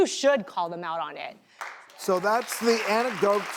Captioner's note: applause